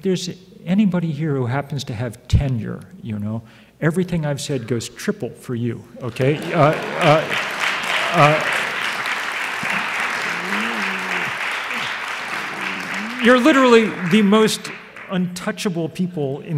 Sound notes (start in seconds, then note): 6.2 audience applauds